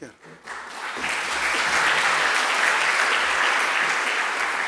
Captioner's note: audience applauding